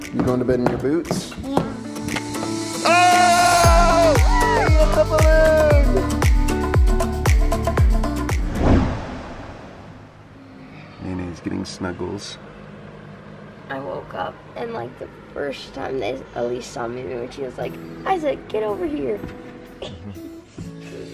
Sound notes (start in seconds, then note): 2.9 cheering